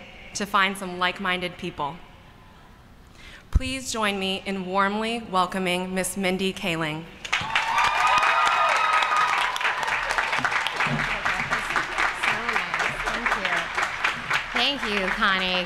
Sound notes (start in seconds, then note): 7.2 applause